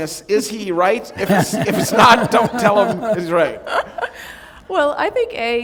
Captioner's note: laughter